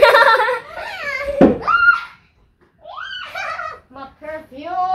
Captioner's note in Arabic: أطفال يلعبون